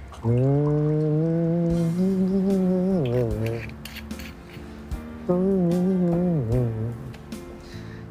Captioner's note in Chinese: 哼唱聲